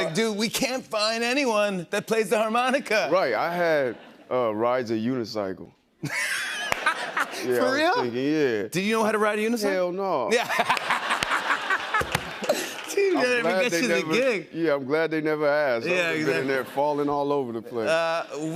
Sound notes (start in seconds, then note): 6.1 laughs; 10.4 laughs